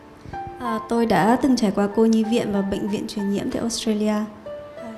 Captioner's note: woman translating to Vietnamese